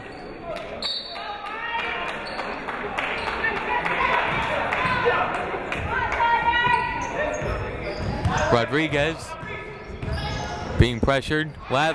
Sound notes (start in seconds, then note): 0.8 whistle tweeting; 1.2 crowd clapping; 3.4 people shouting in the crowd